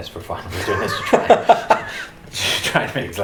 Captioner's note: both laugh